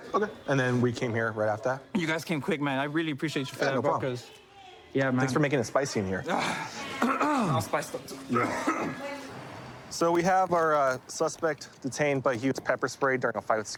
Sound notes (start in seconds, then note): 8.2 coughs; 8.3 clears throat